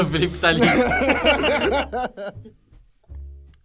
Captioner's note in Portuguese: risadas